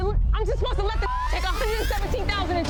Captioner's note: beep